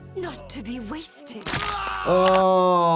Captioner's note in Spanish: persona grita de agonía